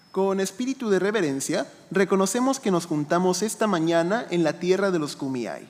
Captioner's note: speaking in foreign language